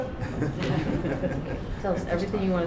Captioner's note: laughter